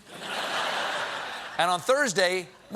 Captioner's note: laughter